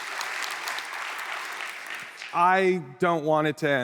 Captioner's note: applause